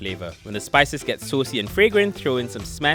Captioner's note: voiceover